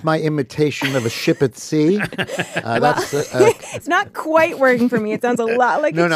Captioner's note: laughs